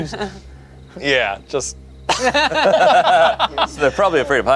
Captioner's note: group laughs